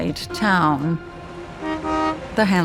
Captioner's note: horn honking